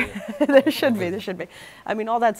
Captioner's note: laughter